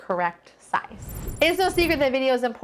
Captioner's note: transition tinkles